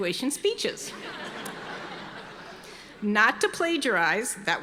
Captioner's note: audience laughing